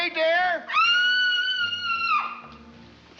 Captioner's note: screaming